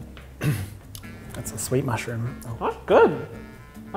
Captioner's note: quietly